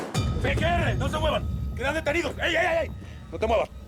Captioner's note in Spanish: detonación de disparo